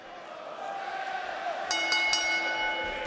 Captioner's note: bell ringing